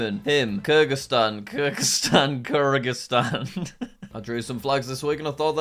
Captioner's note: laughing